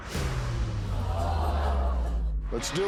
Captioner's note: audience gasps